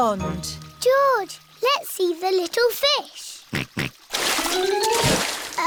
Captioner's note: snorts